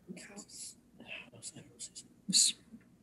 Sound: murmers

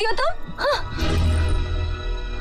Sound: scoffs

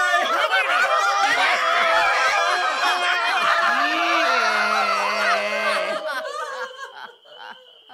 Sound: screaming and yelling

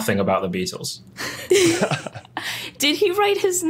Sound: chuckles

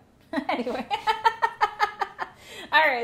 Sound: laughs

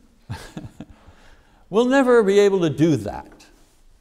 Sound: chuckles

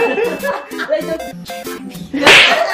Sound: imitating whisper intro

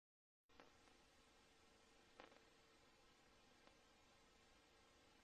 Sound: VHS static

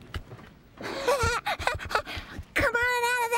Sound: giggles

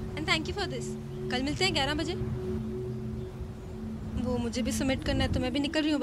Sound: none

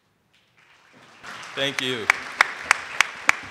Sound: audience applauding

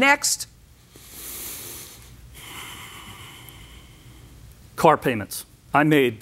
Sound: breathes deeply, sighs

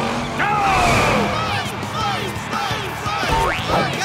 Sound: crowd chanting "Blaze!"

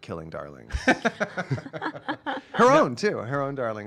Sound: laughing

